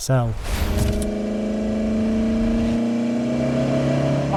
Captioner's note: vehicle revs